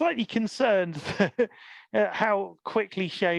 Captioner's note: laughs